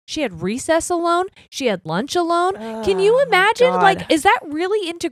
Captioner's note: groans